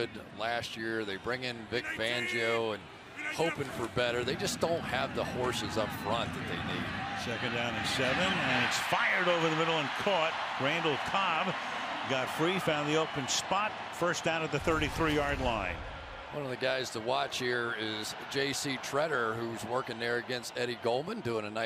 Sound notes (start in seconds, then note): 8.9 cheering